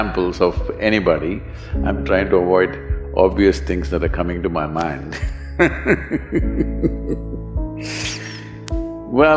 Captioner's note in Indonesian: Tertawa